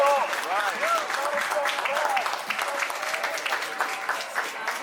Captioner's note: clapping drowns out speaker; people applauding